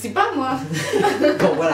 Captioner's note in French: Rires